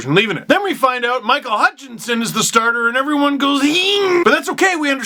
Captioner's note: fear noise